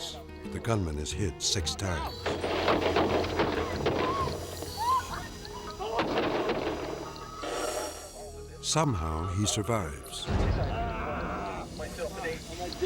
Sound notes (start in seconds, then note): 2.2 gunfire banging; 3.6 driver screaming; 10.7 gunman groaning